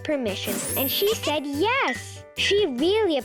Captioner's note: planet laughing and clinking